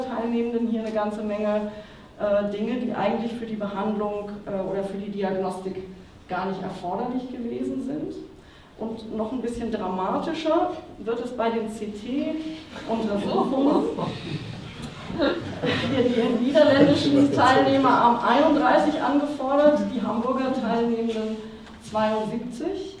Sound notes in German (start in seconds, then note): 14.0 Lachen